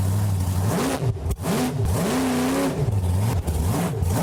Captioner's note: loud engine roars